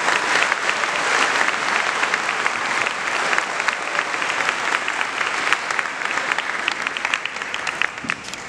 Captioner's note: applause